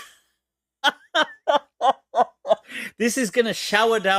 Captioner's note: Ketawa